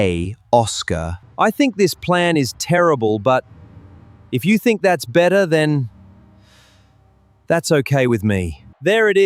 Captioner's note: tired sigh